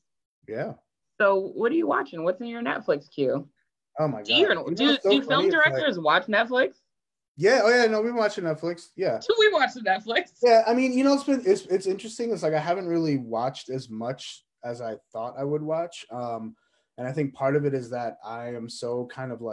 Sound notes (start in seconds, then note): 9.8 laughs